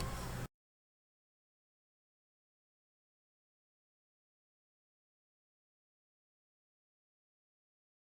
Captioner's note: no further audio